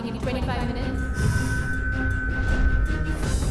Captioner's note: satellite sound